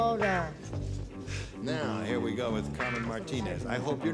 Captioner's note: none